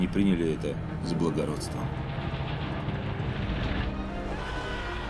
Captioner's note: creaking, rattling; screaming in distance